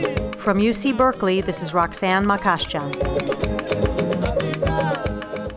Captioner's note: african tribal music; voiceover